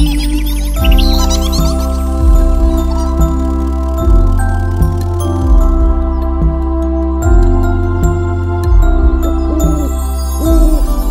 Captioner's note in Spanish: Música de cuna; Sonido de pájaro; Sonido de lechuza